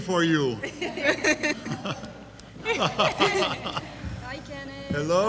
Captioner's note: judges laugh